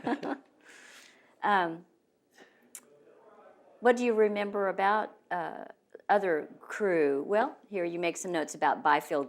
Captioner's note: laughs